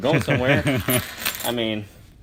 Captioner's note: laughs